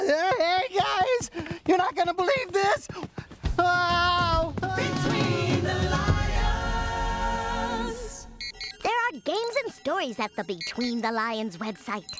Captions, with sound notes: HEY, GUYS! YOU'RE NOT GOING TO BELIEVE THIS! ( yells ) THERE ARE GAMES AND STORIES AT THE BETWEEN THE LIONS WEB SITE: